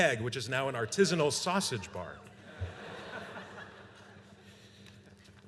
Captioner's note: laughter